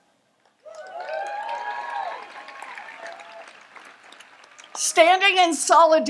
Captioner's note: audience applauds and cheers